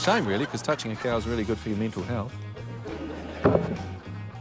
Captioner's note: laughter